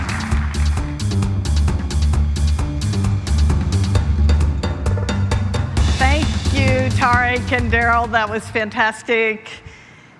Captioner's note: applause